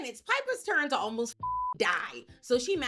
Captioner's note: beep